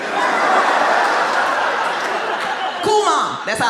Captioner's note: audience laughs